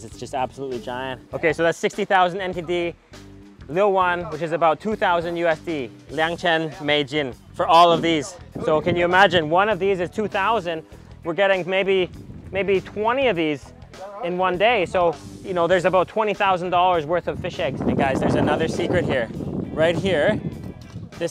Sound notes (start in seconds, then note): 5.9 speaks in foreign language